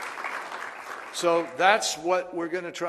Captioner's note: applause